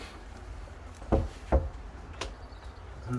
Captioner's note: knock